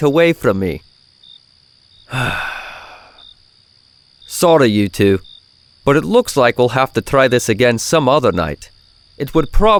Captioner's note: sigh